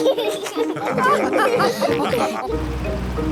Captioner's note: all laugh